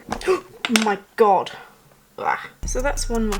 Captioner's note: gasp